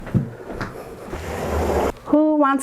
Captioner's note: light footsteps